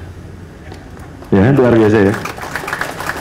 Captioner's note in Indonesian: tepuk tangan